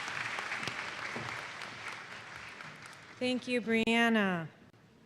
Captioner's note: applause